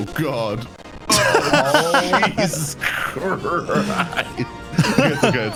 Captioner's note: both laughing